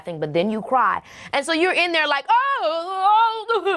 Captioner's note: exclaiming